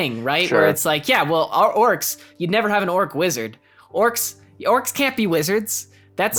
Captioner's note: sarcastically